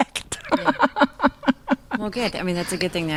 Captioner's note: laughing